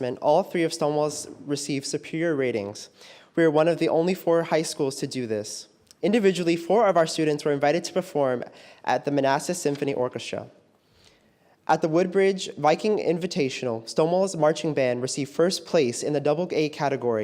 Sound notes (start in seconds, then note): none